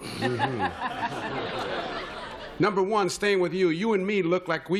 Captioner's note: laughter